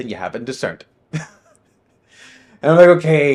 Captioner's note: laughing